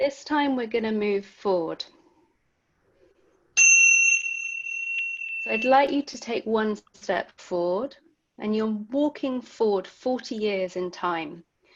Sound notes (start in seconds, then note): 3.6 bell sound